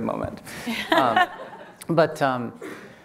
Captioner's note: laughing